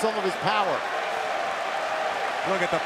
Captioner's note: crowd cheering